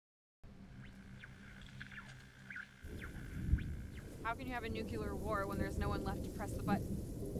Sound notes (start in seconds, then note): 0.8 radio static; 7.2 wind blowing